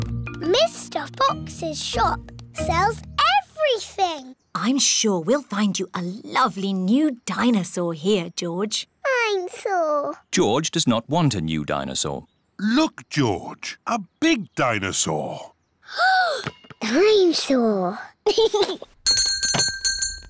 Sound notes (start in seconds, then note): 15.6 gasps; 18.2 giggles; 19.0 bell rings